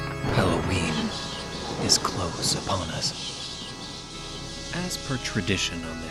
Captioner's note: ⛈️ ultra cool and dramatic lightning sounds ⛈️